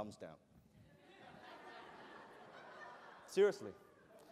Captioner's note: laughter